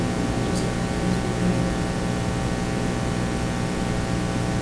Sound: whispering

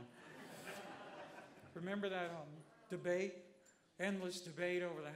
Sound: laughter

